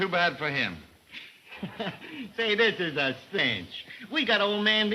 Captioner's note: chuckles